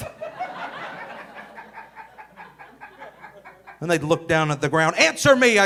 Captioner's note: audience laughing